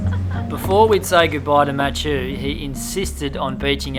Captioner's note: both laugh; voiceover